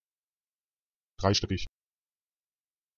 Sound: fast Pronunciation

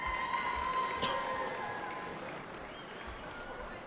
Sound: cheering

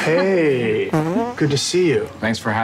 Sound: man farts

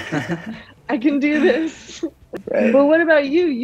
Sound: laughs

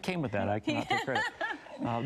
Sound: laughs

